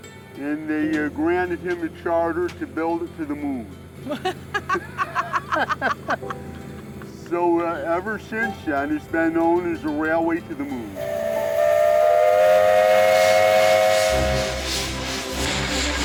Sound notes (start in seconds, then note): 4.0 both laugh; 10.9 whistle blows